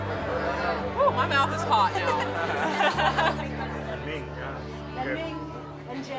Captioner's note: laughs